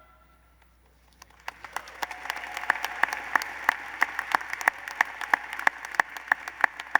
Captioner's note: applause